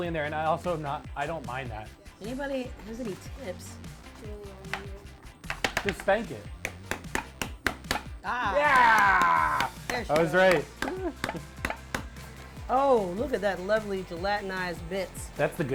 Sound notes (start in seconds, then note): 5.4 palm tapping; 5.4 can tapping